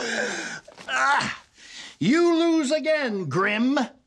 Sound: sniggers; inhales sharply

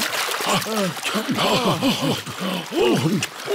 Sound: all puff and pant

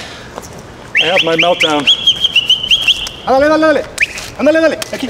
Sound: whistle

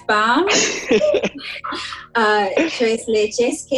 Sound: laughing

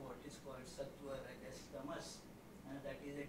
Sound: non-english

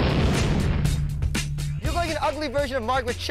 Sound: booming sound

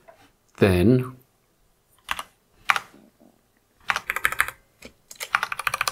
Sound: blank Audio

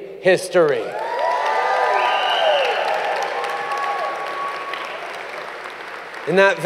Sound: cheers & applause

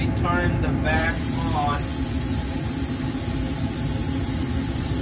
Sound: rushing air noise from the vacuum line

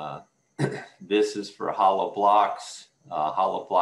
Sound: clears throat

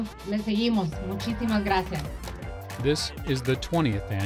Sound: speaking Spanish

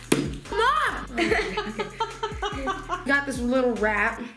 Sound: mom laughing off-screen

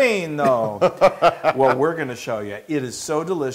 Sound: laugh

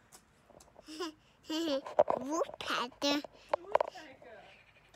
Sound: laughs

